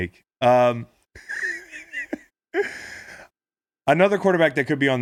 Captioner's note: laughing